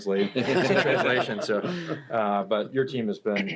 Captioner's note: everybody laughs